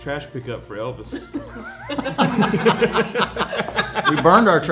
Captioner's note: everyone laughing